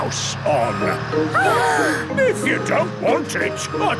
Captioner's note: children gasp